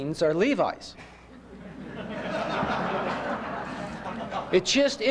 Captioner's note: laughter